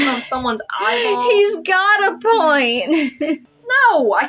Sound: laughing

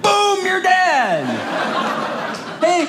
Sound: audience laughing

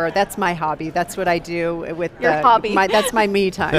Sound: interviewers laugh; laughs

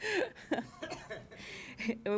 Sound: chuckling

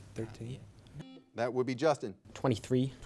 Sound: buzzer beeping

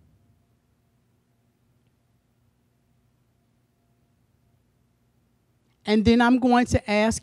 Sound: silence

